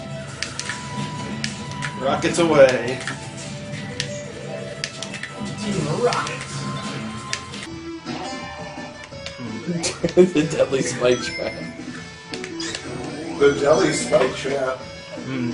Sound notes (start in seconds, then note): 9.6 chuckling